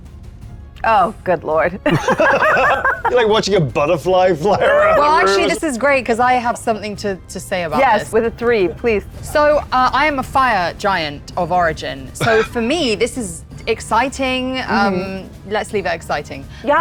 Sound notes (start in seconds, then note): 1.8 laughing